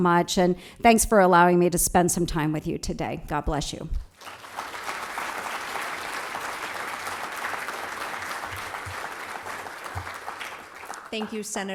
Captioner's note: applause